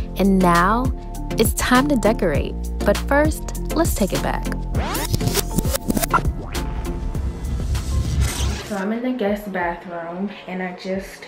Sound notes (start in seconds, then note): 4.8 rewinding whirs